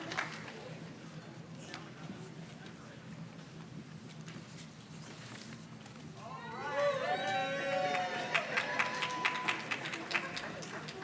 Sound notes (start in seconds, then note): 5.7 page rustles; 6.5 audience cheers and claps